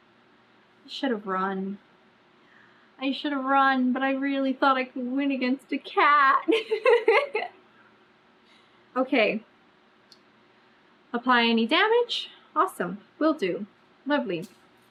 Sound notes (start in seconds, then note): 6.6 laughs